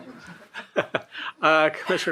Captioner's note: all laughing